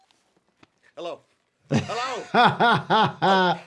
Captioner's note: doctor laughs